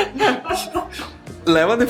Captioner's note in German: lachen